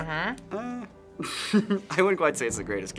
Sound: skeptical laugh

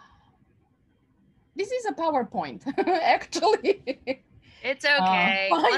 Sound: laughs

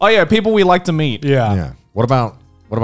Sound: in Unison

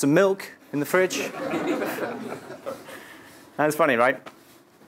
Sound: laugh

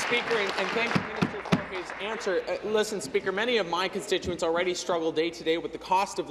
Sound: applause

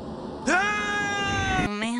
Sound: screaming

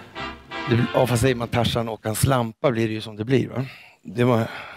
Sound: in Swedish

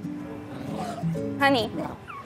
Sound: dog whining

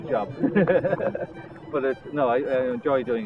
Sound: laughs

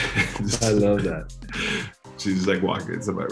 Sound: laughs

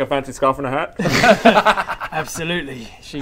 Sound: pragmatic giggles

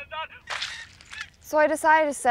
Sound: splat

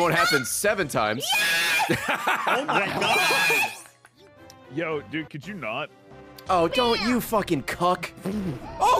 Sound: laughs

